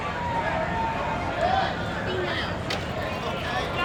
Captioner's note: crowd shouting